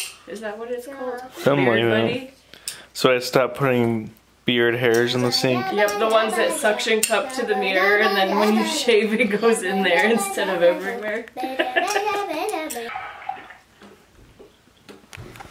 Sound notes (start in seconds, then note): 11.3 laughing